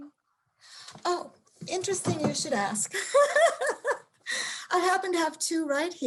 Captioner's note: laughs